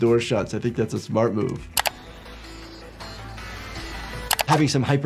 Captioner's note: mouse clicking; upbeat music